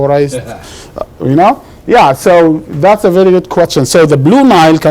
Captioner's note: laughs